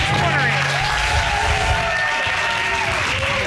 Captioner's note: applause